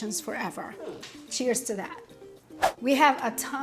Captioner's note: screen whooshes